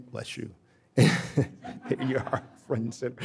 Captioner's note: laughing